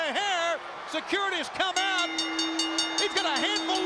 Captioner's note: bell rings